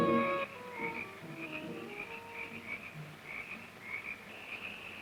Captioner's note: insects chirping